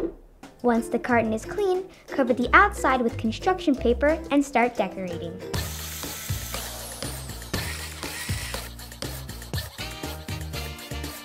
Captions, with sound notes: Once the carton is clean, cut the outside with construction paper and start decorating. (saw buzzing) (drill whirring)